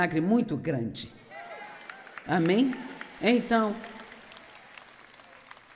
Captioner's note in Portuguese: audiência aplaude